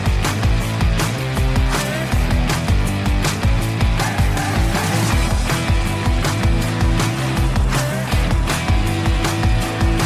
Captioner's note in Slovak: Potlesk